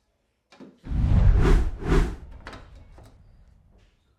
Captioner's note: text swooshes